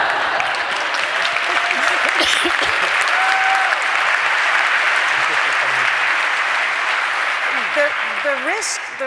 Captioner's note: applause